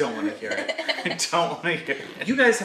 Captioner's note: laughs